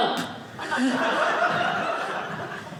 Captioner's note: audience laughing